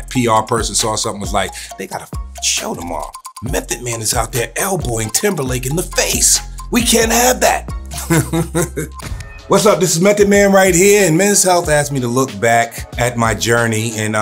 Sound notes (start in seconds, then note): 2.3 beeps; 8.0 laughs